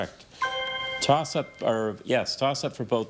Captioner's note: chime resonating